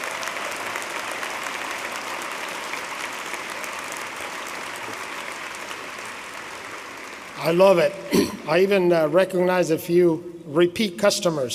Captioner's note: applause